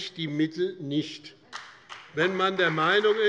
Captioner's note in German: Beifall bei dem BÜNDNIS 90/DIE GRÜNEN, der CDU und der FDP